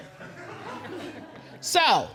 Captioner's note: audience chuckle